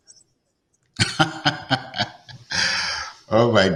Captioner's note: laughs